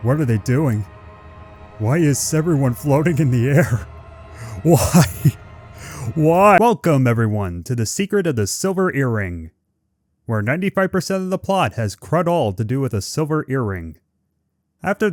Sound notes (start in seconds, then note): 4.7 breaks into laughter